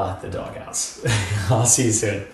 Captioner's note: laughs